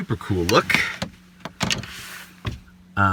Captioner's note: clank